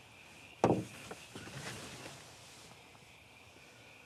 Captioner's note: soft tapping